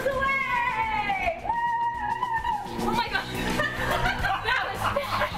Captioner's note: laughter